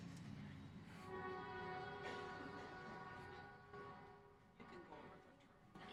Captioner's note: train siren